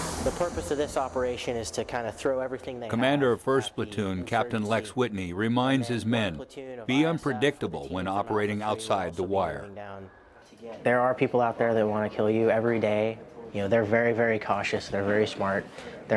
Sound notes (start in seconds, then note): 3.3 voiceover